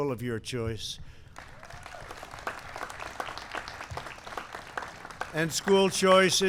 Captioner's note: applause